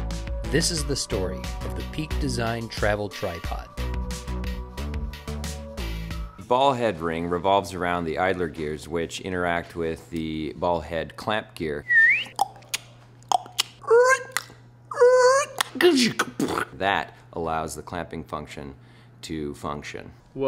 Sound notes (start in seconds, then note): 11.8 whistle; 13.2 tongue clicks